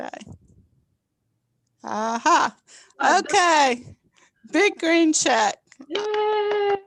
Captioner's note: group laughter